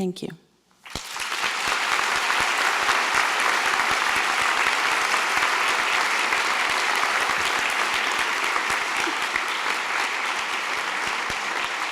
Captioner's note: applause